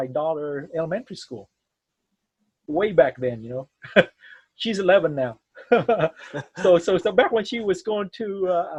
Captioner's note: laughs